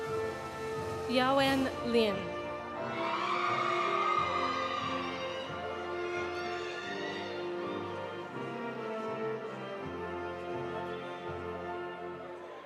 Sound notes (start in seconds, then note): 2.8 audience cheering; 2.9 audience applauding